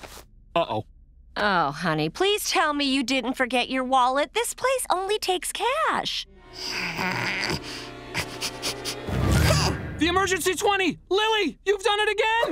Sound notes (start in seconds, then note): 6.6 grunting